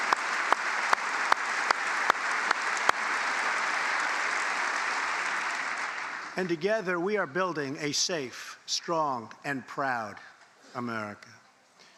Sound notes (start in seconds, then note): 0.0 applause; 0.0 cheers and applause; 7.2 applause